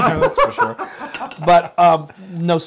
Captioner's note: laugh